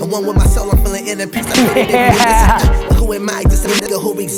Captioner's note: laughs